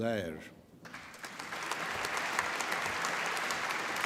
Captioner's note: applause